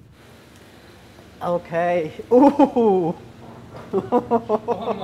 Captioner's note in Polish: śmiech